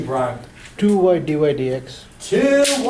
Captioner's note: voiceover